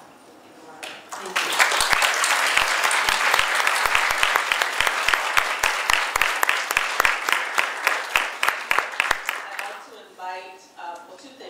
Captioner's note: audience applause